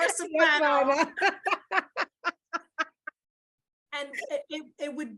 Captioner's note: laughs